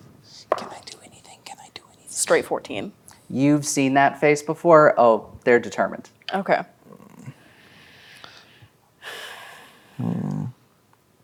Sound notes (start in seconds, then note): 0.2 whispering; 9.1 sighs